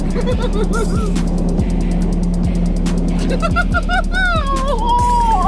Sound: team laughing and mumbling

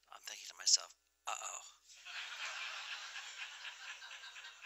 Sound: laughter

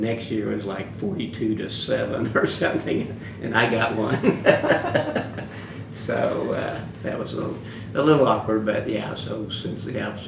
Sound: laughs

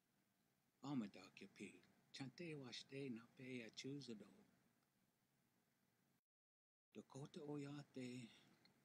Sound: speaks native language

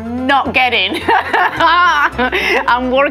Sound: laughs

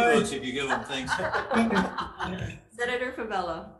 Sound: group laughs

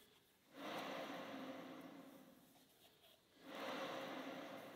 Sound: machine spins gently

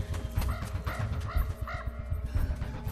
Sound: cawing

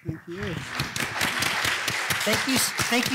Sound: applause

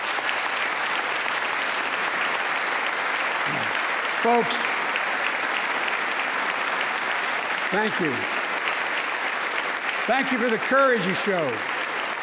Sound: applause

